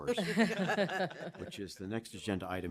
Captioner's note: laughter